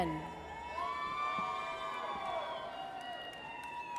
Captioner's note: audience cheers